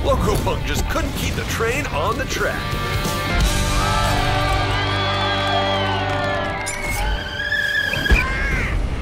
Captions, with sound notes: Loco Punk just couldn't keep the train on the track. (cheers)